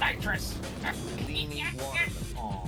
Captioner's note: absurd chittering sounds